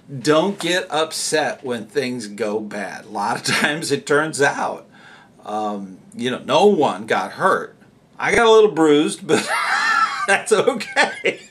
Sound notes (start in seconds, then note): 9.4 haha